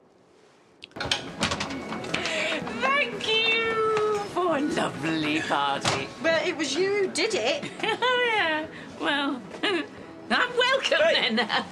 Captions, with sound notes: Thank you for a lovely party! Well, it was you who did it! Oh yeah! Well... *Giggles* -I'm welcome then! -Hey!